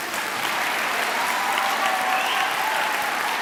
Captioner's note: clapping